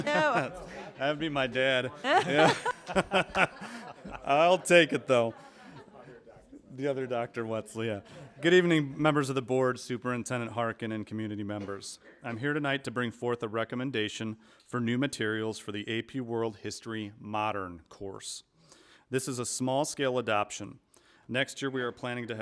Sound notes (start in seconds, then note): 1.9 laughter